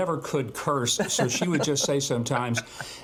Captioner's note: laughter